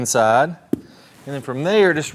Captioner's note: golf club hitting